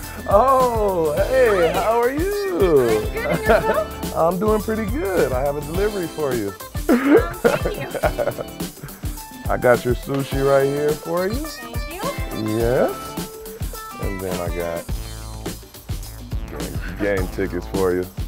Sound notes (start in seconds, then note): 6.8 laughter